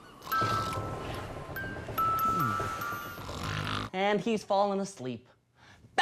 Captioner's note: Captain Cook snoring